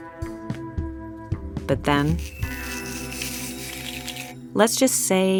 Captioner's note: squeaking